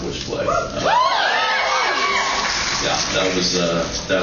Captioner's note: cheers